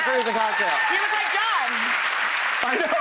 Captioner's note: applauds